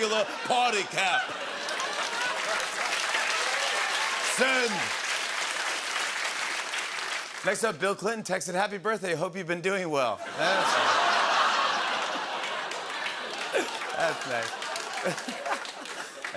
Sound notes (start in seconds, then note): 1.7 laughter and applause; 5.3 applause; 11.7 laughter